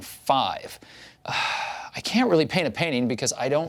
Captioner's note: sighs